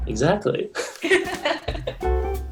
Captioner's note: laughing; dramatic music playing